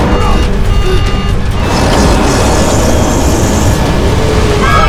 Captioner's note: explosion; alarms; screaming